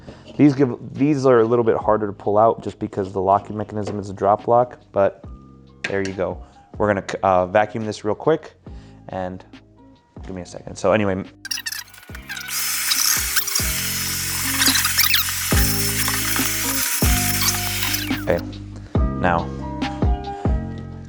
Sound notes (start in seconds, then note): 11.8 vacuuming loudly humming